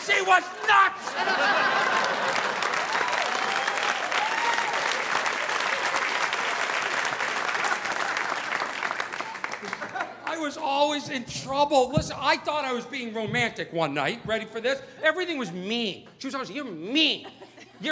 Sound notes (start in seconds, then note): 0.9 audience laughing; 1.8 audience applauding